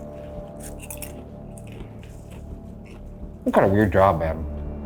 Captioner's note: popcorn crunching